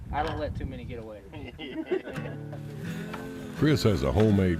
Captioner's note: group laughs